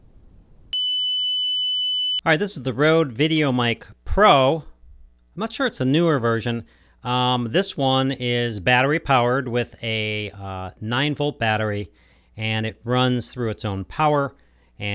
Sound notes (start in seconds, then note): 0.7 tone generator beeping